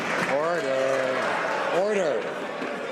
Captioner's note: some Applause